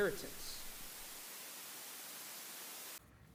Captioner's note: static drowns out noise